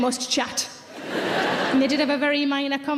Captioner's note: audience laughs